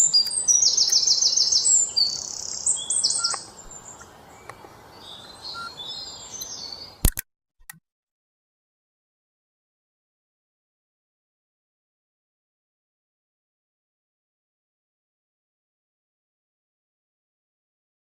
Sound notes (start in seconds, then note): 5.5 camera clicks